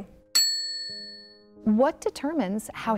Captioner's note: bell dings